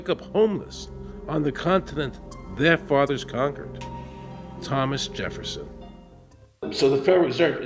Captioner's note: none